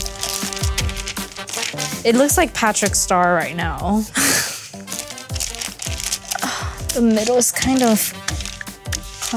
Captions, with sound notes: It looks like Patrick Star, right now. (chuckles) (wax paper crinkles) The middle's kind of...